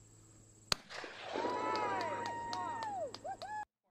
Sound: gun firing sound followed by cheering

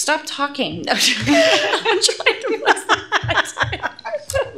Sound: laughter

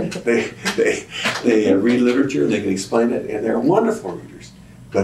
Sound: laughter

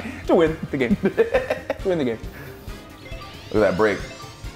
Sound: laugh

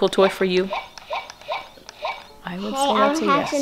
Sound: electronic game sounds

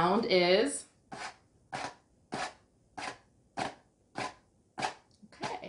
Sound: scratching

